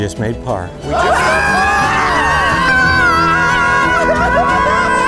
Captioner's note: group cheers